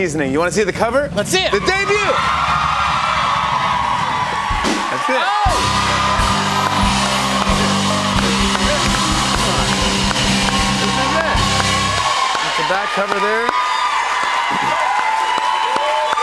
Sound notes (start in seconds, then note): 2.0 cheers and applause; 5.9 cheers and applause